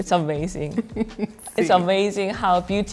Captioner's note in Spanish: risas